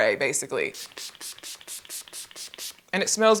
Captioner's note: spray hisses